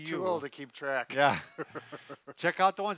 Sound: laughing

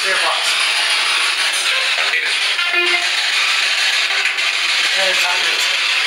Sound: static noise

